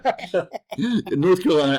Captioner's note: laughter